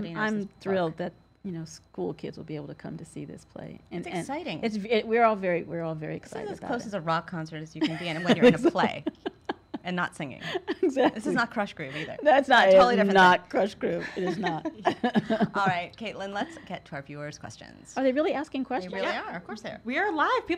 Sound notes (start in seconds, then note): 10.5 chuckles; 14.0 both laugh